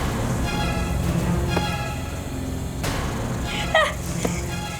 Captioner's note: light thudding